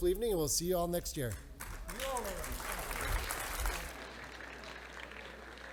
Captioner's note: audience applauding